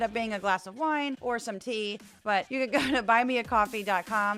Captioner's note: laugh